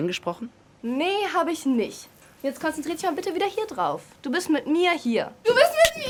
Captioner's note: Phil speaking in foreign language; Kat speaking in foreign language